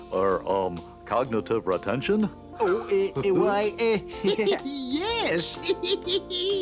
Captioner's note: Grubby laughs